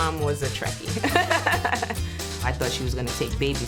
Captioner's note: laughs